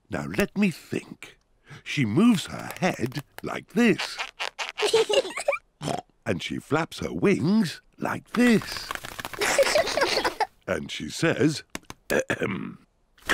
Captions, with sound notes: Now, let me think. She moves her head, like this. -(BOTH LAUGH) -(OINKS) And she flaps her wings like this. -(BOTH LAUGH) -And she says, ahem,